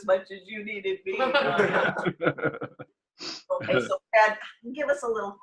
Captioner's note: laughter